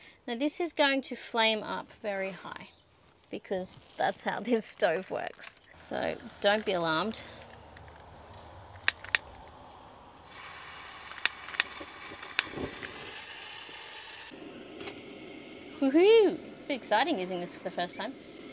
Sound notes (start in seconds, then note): 8.5 lighter clicks three times, and flame goes floof!; 8.5 lighter clicks twice, gas hisses